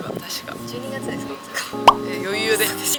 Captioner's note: laughs